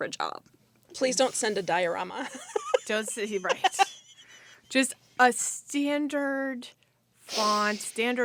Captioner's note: laughter